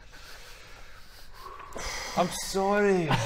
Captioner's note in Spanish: suspiro ansioso